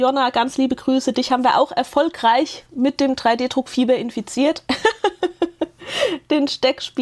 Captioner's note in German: Gelächter